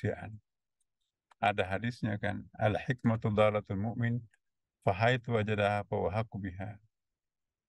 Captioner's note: Arabic